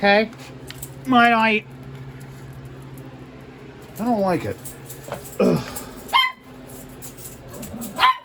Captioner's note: Ella barks; Ella continues barking